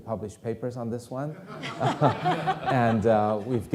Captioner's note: audience laughing